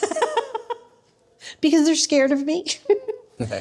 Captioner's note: laughing